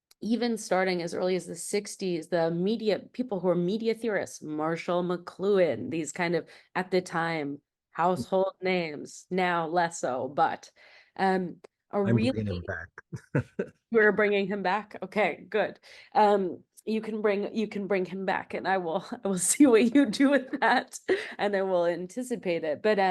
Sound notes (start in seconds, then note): 12.0 laughs